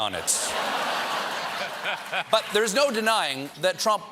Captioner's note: laughter